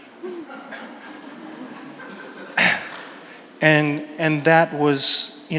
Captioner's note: audience members laugh